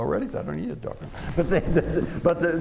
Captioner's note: chuckles